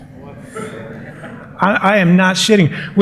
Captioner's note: laughter